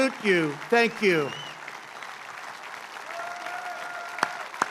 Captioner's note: applause